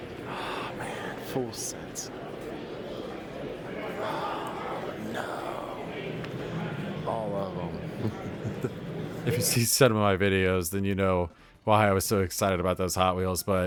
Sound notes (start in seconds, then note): 5.4 whisper; 8.0 little giggle